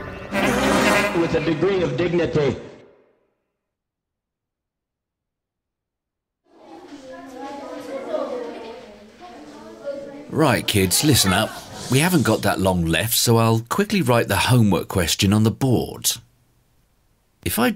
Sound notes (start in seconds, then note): 6.5 children Talking